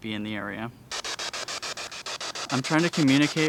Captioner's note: static hissing